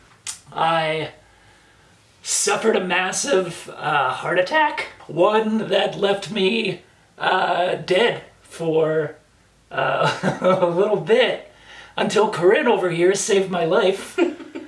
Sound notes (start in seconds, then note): 9.8 laughs; 14.1 laughs